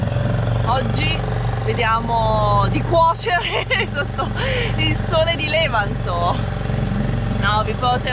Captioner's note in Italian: risate